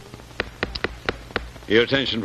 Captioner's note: gavel banging